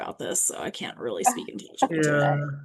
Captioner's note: chuckling